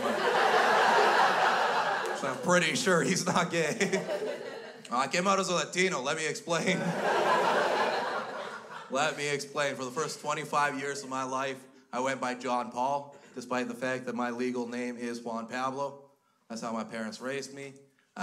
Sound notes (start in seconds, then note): 0.0 crowd laughs; 6.6 crowd laughs